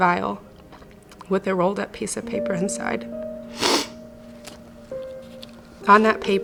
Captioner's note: snuffles